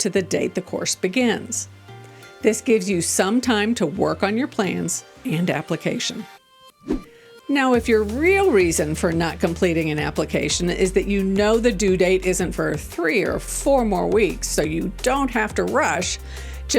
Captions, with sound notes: to the date the course begins. This gives you some time to work on your plans and application. (gentle music) (transition whooshing) Now, if your real reason for not completing an application is that you know the due date isn't for three or four more weeks, so you don't have to rush,